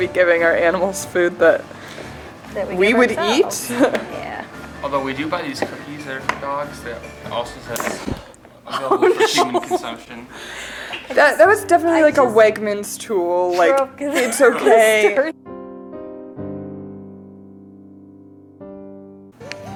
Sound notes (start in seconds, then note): 7.7 snapping sound; 10.3 laughing; 15.1 sad music